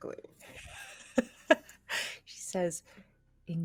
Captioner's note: laughs